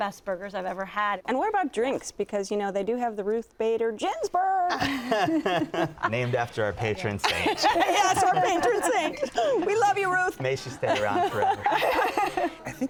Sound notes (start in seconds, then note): 4.7 laughs; 7.2 laughter